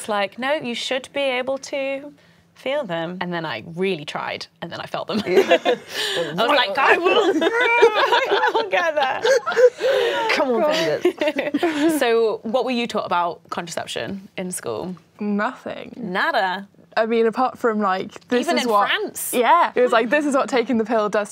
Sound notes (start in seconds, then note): 8.8 strained groan; 11.4 laughing